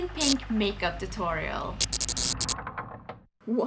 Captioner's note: door creaking, neon lamps blinking